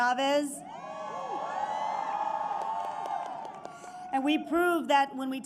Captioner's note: applause